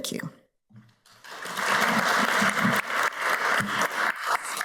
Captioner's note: audience applauds